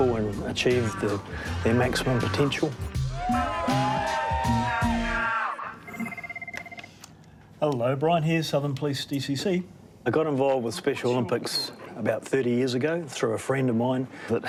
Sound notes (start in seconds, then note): 3.0 all cheer; 5.8 phone rings